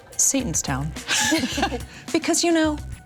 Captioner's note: everyone chuckles